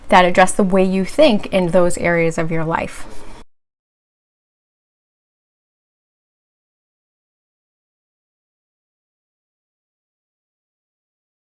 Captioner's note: silence